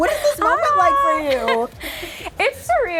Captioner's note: chuckles